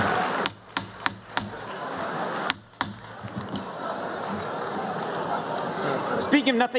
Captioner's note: applause